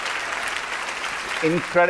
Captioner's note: applause